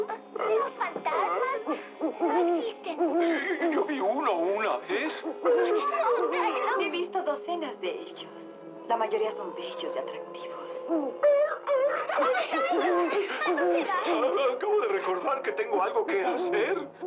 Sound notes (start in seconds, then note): 10.6 hoots; 10.6 shivering